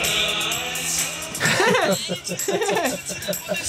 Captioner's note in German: alle lachen